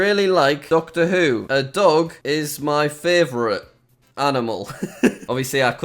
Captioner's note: laughs